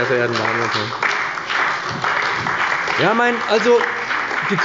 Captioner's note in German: Beifall bei dem BÜNDNIS 90/DIE GRÜNEN und der CDU